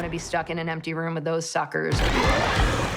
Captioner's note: squealing, growling